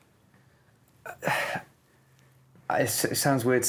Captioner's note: sighs